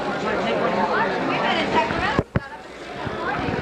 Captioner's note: chatter